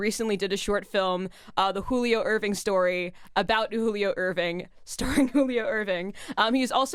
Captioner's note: chuckles